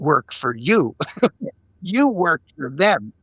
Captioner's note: laughing